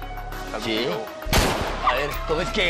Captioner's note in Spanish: Disparos